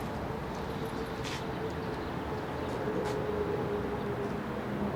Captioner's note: traffic echoing